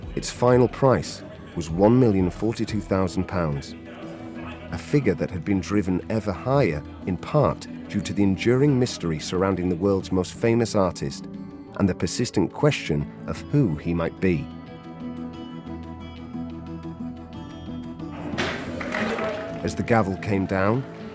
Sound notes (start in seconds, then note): 18.2 cheering; 18.2 bangs gavel